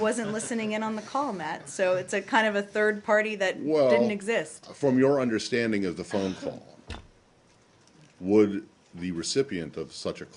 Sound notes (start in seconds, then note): 0.0 laughter